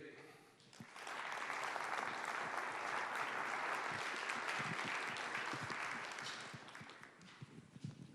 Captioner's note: applause